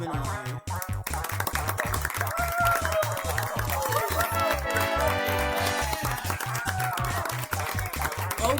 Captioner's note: applause